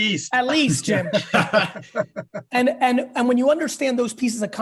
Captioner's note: laughing